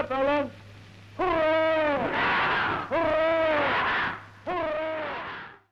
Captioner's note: cheers